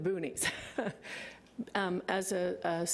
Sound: laughing

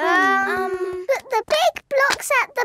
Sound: children hesitating

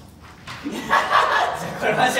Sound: laugh

